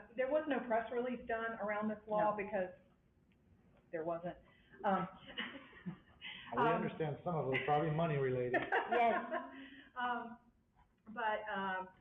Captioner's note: laughter